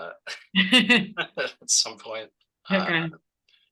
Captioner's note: laughs